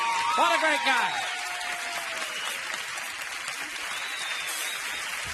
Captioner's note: audience applauding